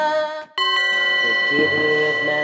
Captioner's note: bells clinging